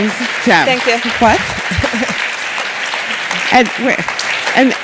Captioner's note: all clapping